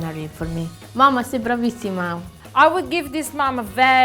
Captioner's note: is speaking in Italian